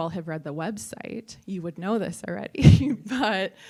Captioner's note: laughs